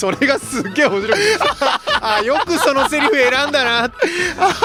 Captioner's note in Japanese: 笑い